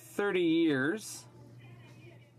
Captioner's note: speaking in french